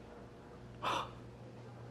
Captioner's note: sighing